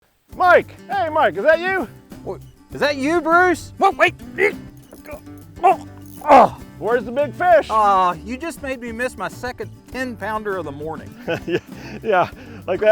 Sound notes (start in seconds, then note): 6.2 grunting